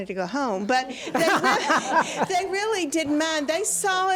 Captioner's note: audience laughs